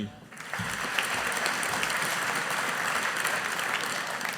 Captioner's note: audience applauding